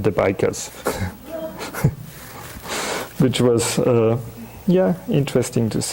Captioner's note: chuckling